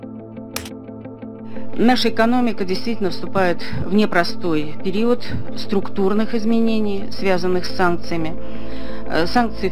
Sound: speaking in Russian

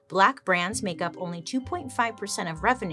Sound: none

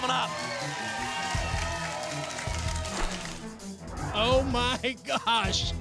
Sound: audience applause

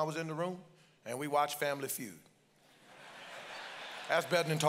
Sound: congregation laughs

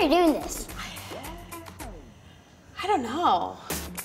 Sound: sighs

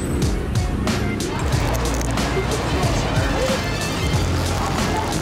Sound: crunching

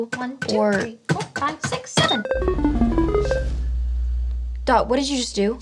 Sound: electronic beeping

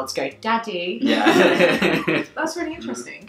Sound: laughing

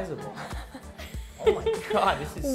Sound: chuckling

